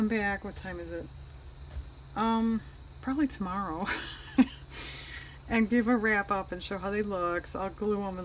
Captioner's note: laughs